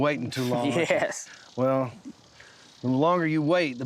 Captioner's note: chuckling